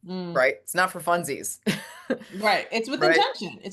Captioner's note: laughs